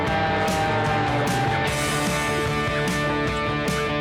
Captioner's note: airplane roaring